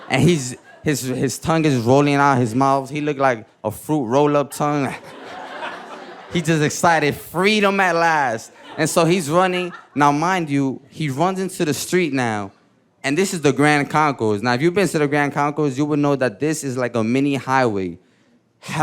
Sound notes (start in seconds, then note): 4.7 audience laughing; 4.8 chuckling